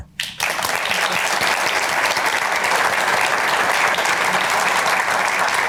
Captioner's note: applause